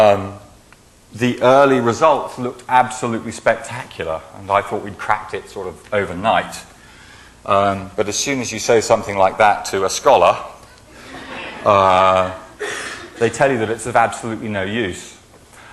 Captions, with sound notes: The early results looked absolutely spectacular. I thought we cracked it sort of overnight. But as soon as you show something like that to a scholar, (laughing) they tell you that it's of absolutely no use.